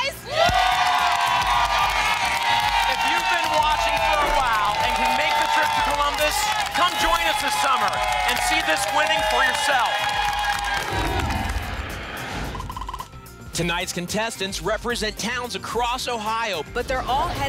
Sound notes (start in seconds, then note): 0.3 applause and cheering; 10.8 whoosh